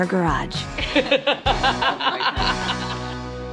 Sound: laughter

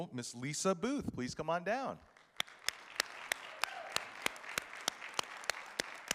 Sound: audience applauding

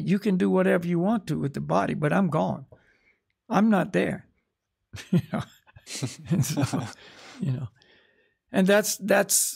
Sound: chuckles

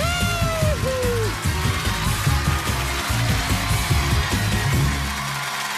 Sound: cheers and applause

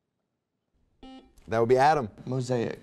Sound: buzzer beeping

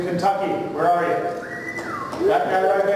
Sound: whistling

